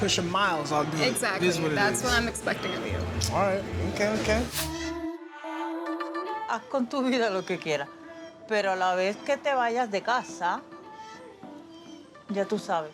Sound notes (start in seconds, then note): 7.6 speaking Spanish